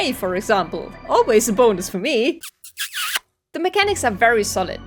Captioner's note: kissing sounds